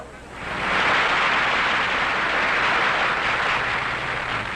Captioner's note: audience applauds